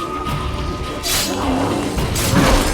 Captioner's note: growl; Quen shield crackles